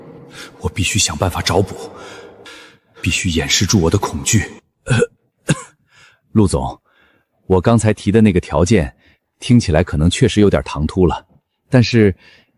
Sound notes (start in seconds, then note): 4.8 cough cough